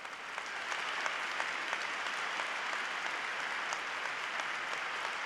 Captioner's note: applause